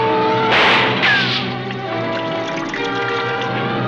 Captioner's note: gun firing